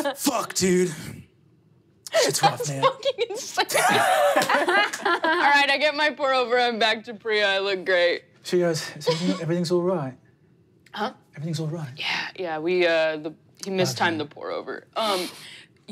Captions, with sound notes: Fuck, dude. Shit's rough, man. - That's fucking insane. (laughing) Alright I get my pour over, I'm back to Priya, I look great. - She goes, everything's all right? - Huh? - Everything's alright? - Yeah, yeah, we, he mistimed the pour over.